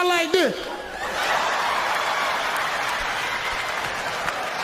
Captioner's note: audience laughs